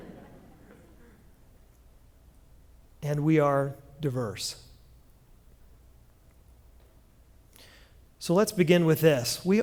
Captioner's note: laughter